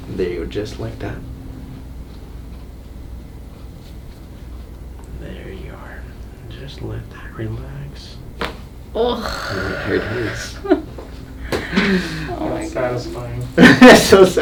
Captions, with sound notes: there, just like just like that. There you are, Just like that. Relax. (neck cracks) There it is. - That's so satisfying.